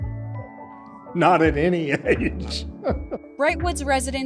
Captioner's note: laughing